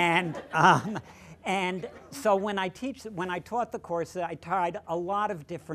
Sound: laughter

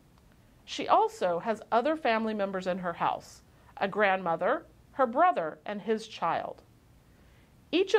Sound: click; click

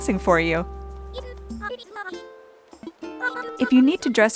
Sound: speaking animalese

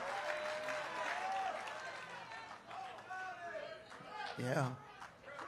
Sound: congregation cheering

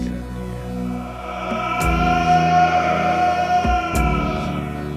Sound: screaming voices

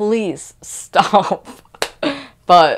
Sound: laughter

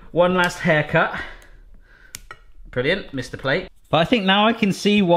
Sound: none

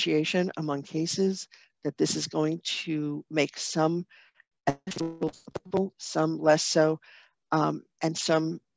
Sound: audio cutting out

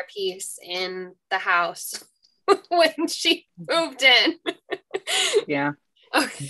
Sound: laughs

